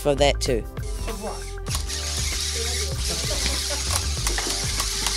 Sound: electronic whirring

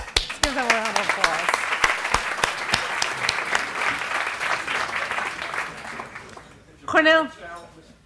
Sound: applause

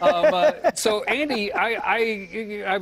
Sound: laughter

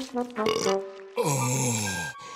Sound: burps, sighs

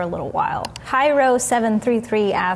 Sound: mouse clicking

